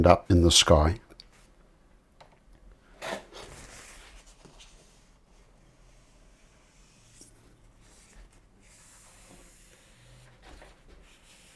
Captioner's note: silence